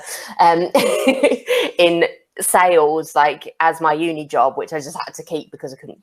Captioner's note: laughs